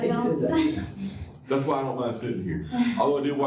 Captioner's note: laughter